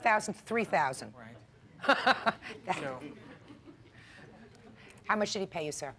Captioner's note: Judge Judy laughs